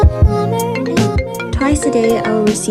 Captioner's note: phone Ring